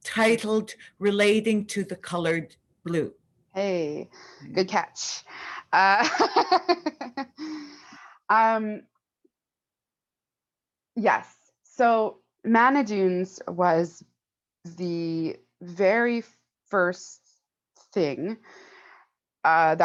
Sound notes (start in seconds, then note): 5.8 she laughs